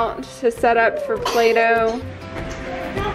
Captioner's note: coughing; folk music